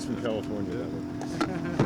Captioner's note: laughter